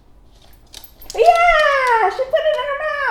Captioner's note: click-click